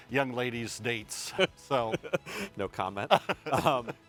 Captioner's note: laughs